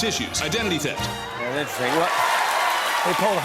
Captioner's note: cheers and applause